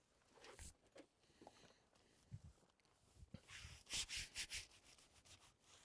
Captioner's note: none